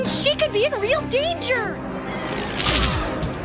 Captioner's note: zapping sound